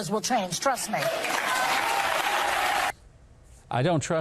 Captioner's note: audience cheers